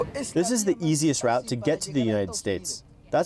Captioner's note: through translator